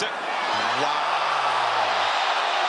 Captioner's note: applause